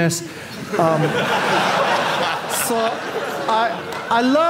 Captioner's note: audience laughing